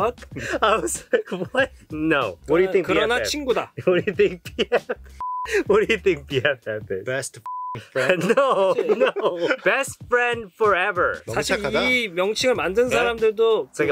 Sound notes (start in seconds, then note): 3.8 speaking in Korean; 7.4 beep; 11.4 speaking in Korean